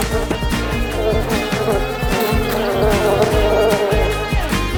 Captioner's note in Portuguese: zumbido